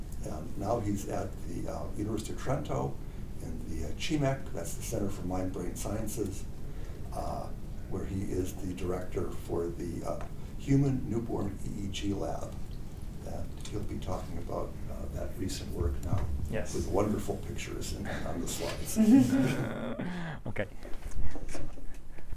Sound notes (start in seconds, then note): 18.9 group laughs